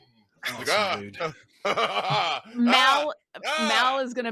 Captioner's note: laughing